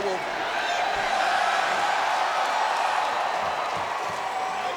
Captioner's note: audience cheers